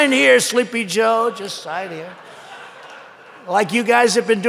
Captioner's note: laughter